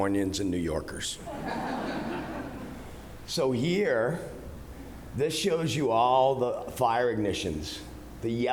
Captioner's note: laughter